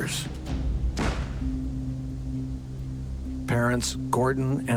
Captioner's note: gun firing